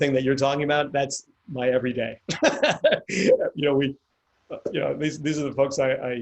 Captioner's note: laughs